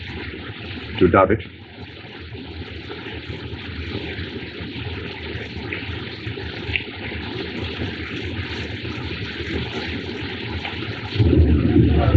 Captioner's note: plane Flies Overhead